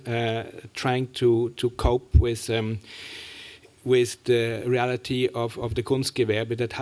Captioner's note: german